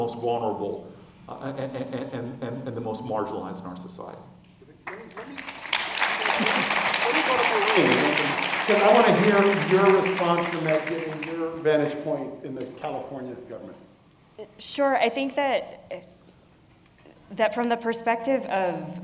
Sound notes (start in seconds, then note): 4.8 applause